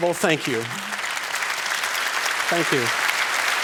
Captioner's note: applause